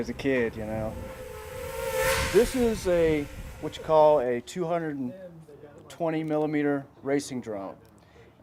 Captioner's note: whizzing propellers